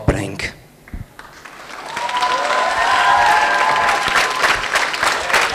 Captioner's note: applause